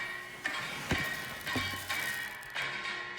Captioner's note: rustling Sound